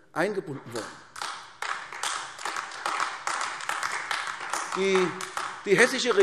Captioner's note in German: Beifall AfD